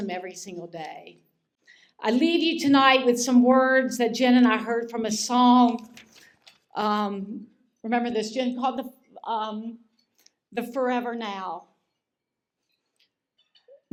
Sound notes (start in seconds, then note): none